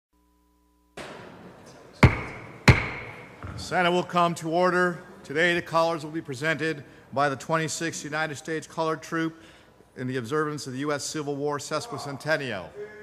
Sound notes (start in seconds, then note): 2.0 gavel pounding